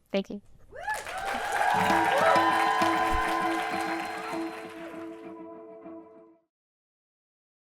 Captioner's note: applause and music playing